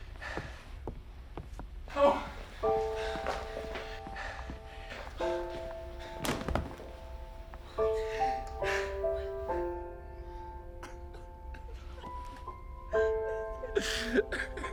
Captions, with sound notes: (weeping) (somber music) - Hello Professor.